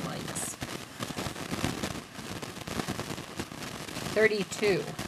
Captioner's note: crackling